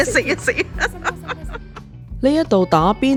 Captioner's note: laughter